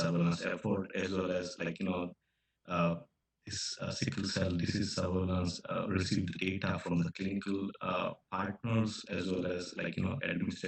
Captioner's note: audio echoing